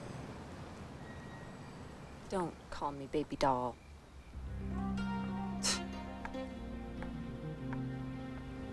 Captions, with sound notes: - Don't call me baby doll. (slow music) (Remi scoffs)